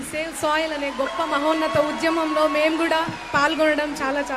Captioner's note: cheering